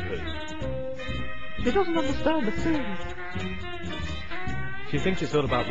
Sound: laughs

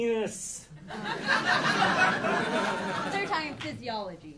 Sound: audience laughing

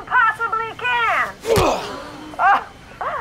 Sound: thud

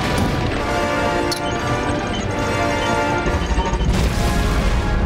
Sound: beeps speed up

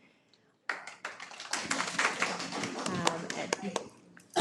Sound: audience clapping

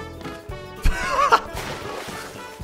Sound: snig laugh

